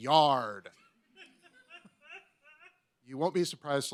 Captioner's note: laughs